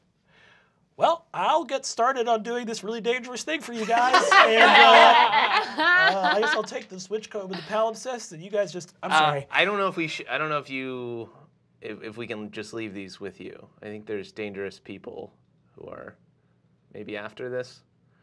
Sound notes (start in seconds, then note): 3.7 group laughing